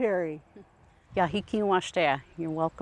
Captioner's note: speaks in a foreign language